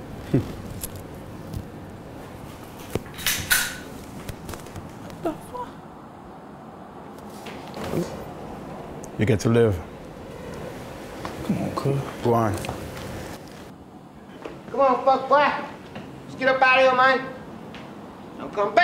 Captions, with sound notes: (chuckles) (guns cock) What the fuck? - You get to live. - Come on, cuz. - Go on. - Come on fuckboi, let's get up outta here man.